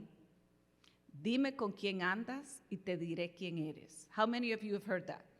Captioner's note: non-english